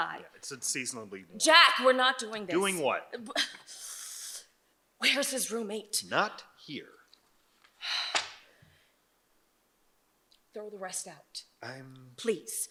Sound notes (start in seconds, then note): 3.8 scoffs; 7.8 sighs